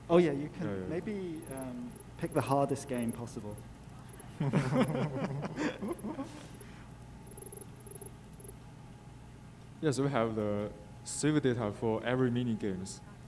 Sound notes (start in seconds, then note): 4.1 laughing; 7.2 text beeping